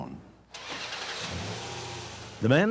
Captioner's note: engine starts